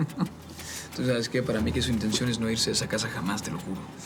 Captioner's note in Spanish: Risas